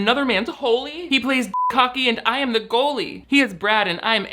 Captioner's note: beep